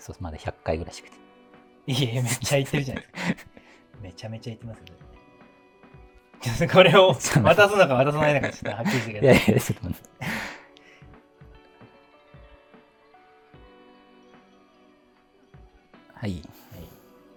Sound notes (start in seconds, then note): 9.9 laughing